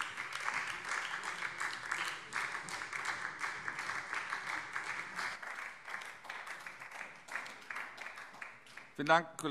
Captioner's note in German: Beifall BÜNDNIS 90/DIE GRÜNEN